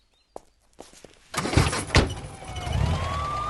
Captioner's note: car Engine Start